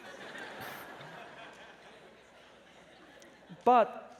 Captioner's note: laughter